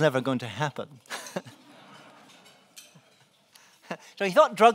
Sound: laughing

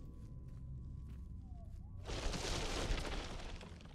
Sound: crashing

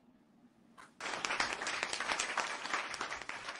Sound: applause

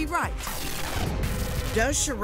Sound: musical static

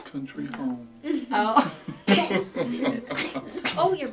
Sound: laughing

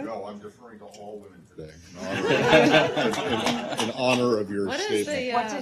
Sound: laughter

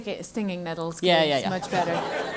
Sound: laugh

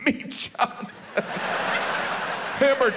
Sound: audience laughs

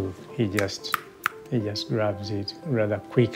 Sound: snapping fingers

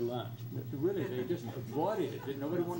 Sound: crowd laughs

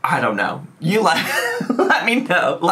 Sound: laughs

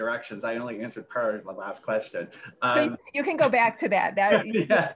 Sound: laughs

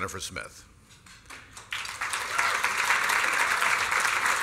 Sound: applause

